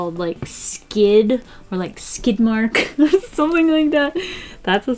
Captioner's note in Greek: γέλιο